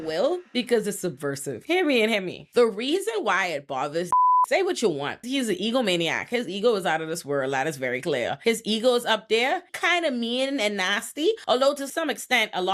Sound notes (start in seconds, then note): 4.1 beep